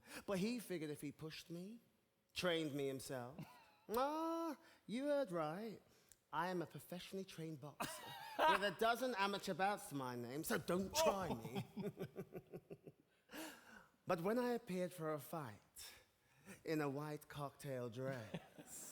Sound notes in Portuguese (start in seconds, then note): 10.9 Charlie and Lola laughing